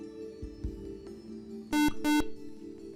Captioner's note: buzzer